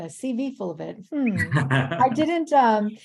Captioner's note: chuckles